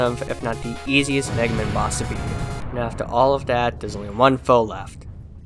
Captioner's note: explosion